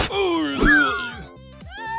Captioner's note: snowball yells; ice cube cries